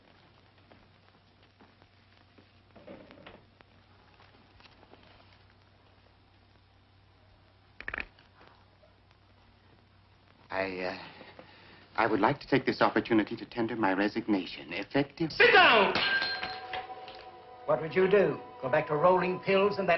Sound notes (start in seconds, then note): 7.7 joints cracking